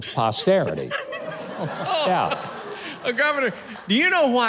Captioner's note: laughing